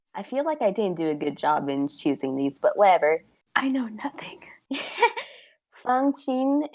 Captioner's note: whispers